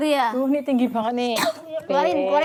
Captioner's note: coughs